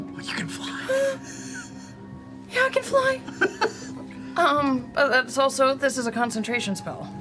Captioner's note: whimpers